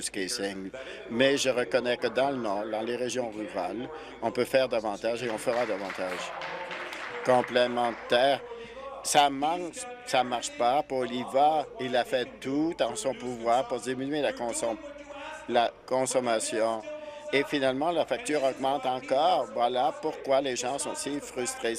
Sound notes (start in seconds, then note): 9.0 applause